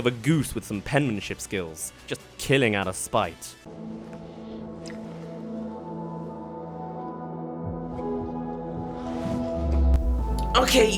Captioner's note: kissing